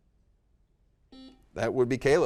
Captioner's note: buzzer dings